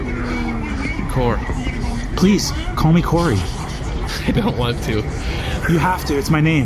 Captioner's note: nervous